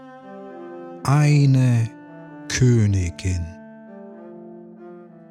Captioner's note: german